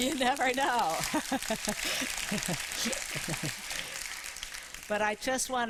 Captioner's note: applause